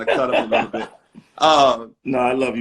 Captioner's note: laughing